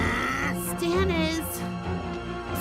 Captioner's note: growling